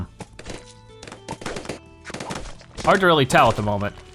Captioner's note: bloons popping